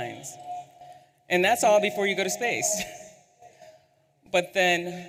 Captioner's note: laughs